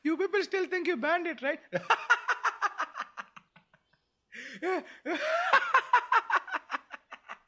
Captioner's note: prolonged Guffawing